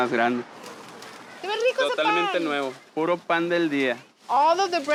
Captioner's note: both speaking Spanish